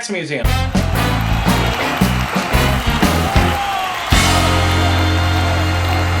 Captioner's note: upbeat orchestral music; audience applauding